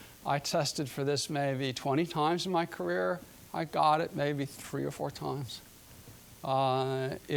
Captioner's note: none